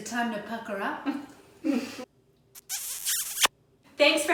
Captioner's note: laughing